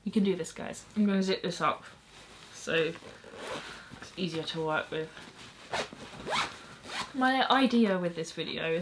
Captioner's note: zipping sounds